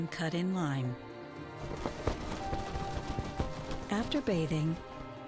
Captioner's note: wings flapping